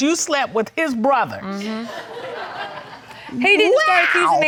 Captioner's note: crowd laughing